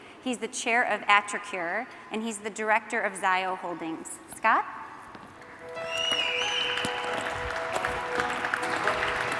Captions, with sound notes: he's the chair of AtriCure, and he's the Director of Zayo Holdings. Scott? (crowd whistles and cheers) (nostalgic music)